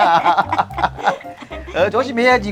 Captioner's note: both laughing